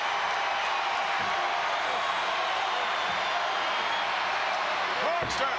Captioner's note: crowd cheering